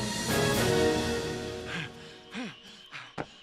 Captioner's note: panting